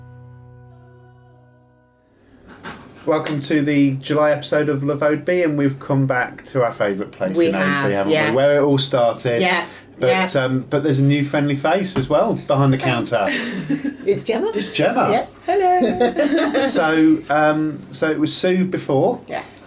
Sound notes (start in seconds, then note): 13.2 laughter; 15.5 laughter